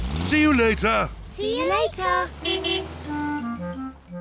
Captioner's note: car horn toots